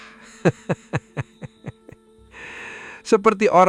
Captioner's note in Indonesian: tertawa